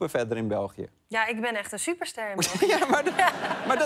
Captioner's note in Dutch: gelach